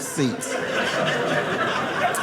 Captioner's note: audience laughing